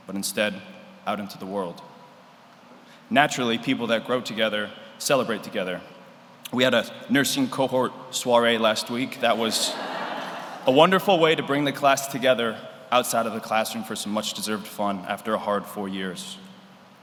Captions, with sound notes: but instead out into the world. Naturally, people that grow together celebrate together. We had a nursing cohort soiree last week. (audience laughs) That was a wonderful way to bring the class together outside of the classroom for some much deserved fun, after a hard four years.